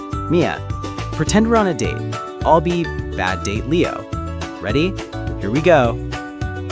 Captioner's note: adopts a monotone voice, staring at phone